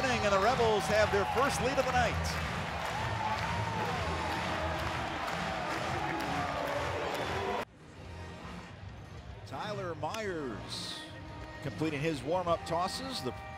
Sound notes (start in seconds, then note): 3.1 crowd cheering and clapping